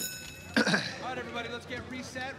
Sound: bell ringing; clears throat

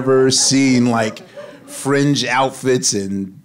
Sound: audience laughing

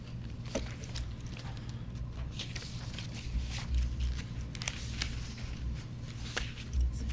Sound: papers shuffling

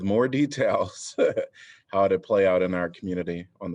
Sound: laughter

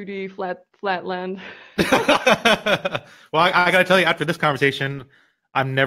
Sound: laughs

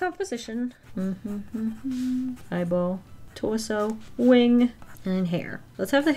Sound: hums

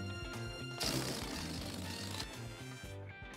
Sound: farting-noise

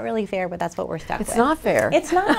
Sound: laughs

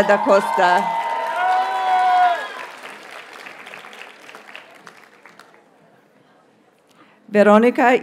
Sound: audience cheers and applauds

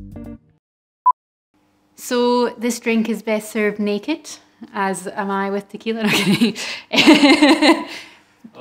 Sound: laughs

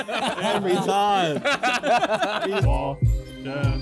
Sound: Sidemen laughing

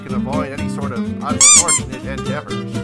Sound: squeak

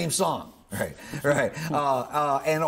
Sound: chuckling

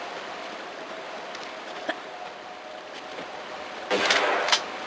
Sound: spider noises; bam

